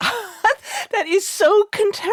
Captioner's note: laughing